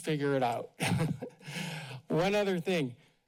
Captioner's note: laughs